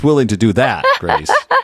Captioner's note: laugh